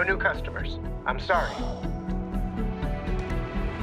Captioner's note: Will sighs